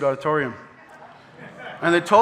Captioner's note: audience laughing